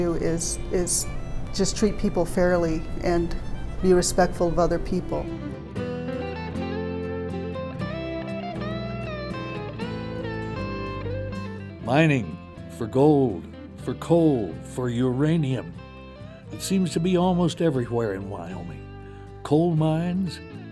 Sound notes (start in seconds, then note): 13.2 voiceover